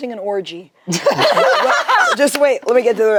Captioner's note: group laughs